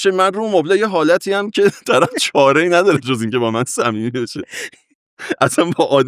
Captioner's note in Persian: خنده